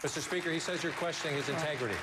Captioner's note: applause